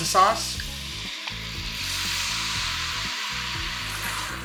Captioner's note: pan sizzles